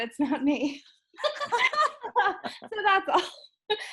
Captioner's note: laughing